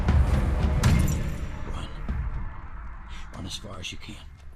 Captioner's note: chains rattling